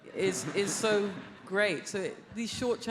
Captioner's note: audience laughs